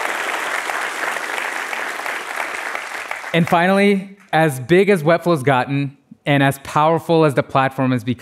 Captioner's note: applause